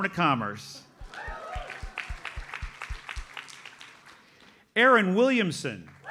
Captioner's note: audience applauds; audience cheers and applauds